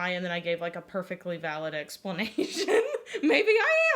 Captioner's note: laughs